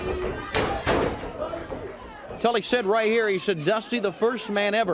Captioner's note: crowd chatter